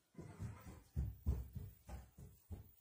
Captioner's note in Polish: odgłos kroków